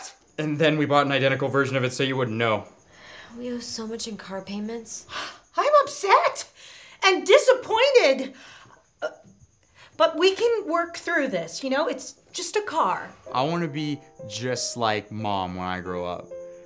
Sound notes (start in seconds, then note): 4.9 gasps